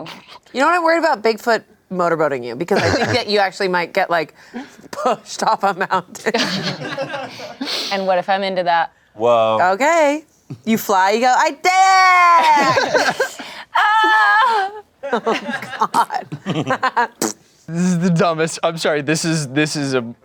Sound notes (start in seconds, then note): 6.4 everyone laughs; 13.7 yells